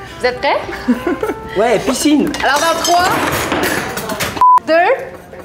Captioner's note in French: bruit et rires